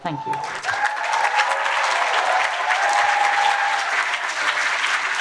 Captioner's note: applause